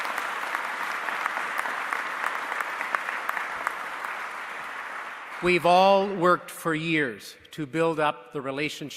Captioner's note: applause